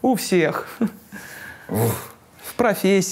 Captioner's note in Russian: Дудь громко вздрагивает